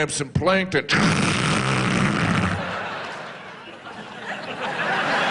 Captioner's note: blow hole noises